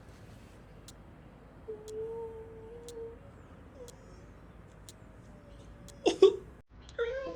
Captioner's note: crying